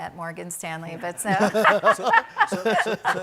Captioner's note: people laugh